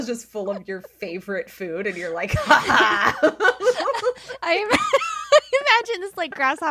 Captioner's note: laughing